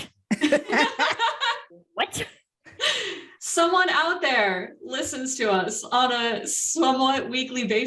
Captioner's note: laughter